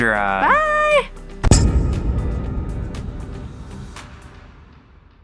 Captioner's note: hand slams